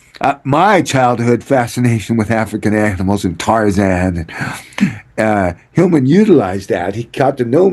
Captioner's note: clears throat